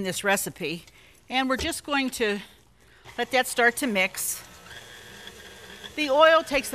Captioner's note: mixer hums